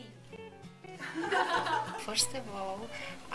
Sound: laughter

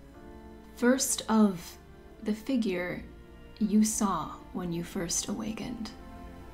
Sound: none

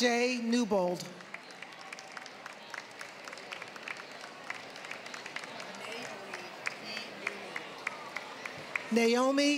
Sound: applause

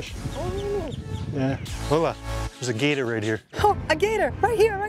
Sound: in Portuguese

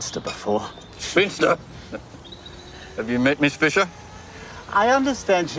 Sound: chuckles

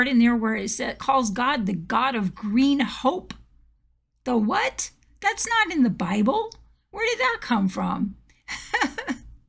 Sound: laughs

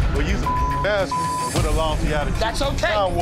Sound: beep

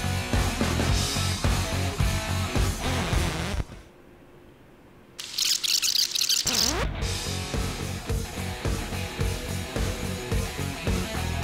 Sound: sounds of shovels digging

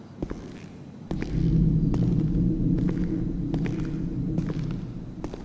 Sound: footsteps; faint metallic creaking; footsteps

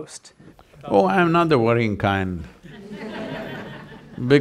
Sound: laughter

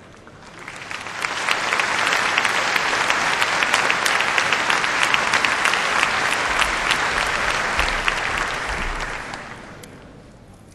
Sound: applause

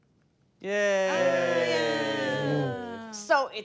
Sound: all cheering unenthusiastically

